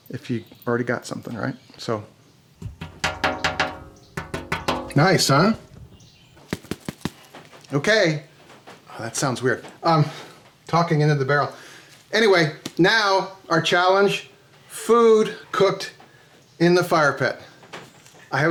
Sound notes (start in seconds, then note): 2.6 tapping; 6.5 corn tapping